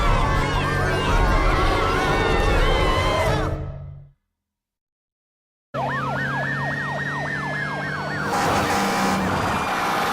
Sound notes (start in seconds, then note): 5.7 sirens wailing